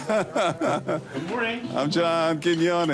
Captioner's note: laughs